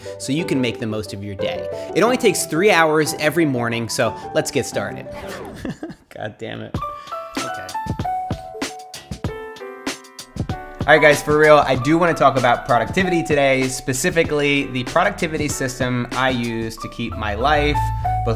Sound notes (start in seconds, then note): 5.1 laughs; 7.2 upbeat music